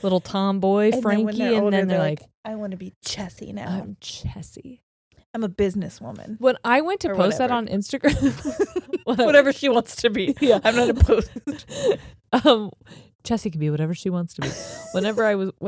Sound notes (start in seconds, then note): 0.0 laughing; 8.1 chuckles; 10.2 laughing; 14.4 laughing